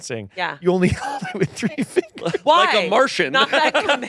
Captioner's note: laughs